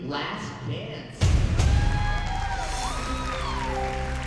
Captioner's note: cheers and applause